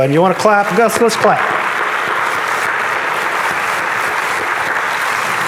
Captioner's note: audience applauding